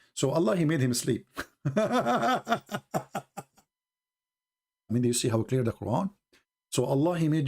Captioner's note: Ketawa